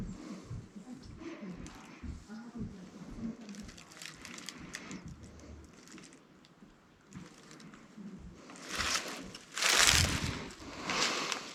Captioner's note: leaves crunching